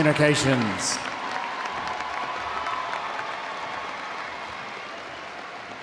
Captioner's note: audience applauding